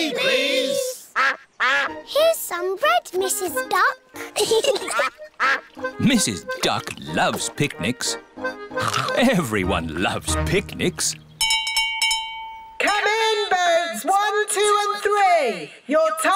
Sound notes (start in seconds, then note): 4.2 both giggling; 8.7 all chomping; 11.4 bell rings